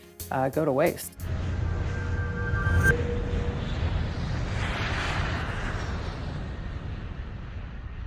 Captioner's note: engines whining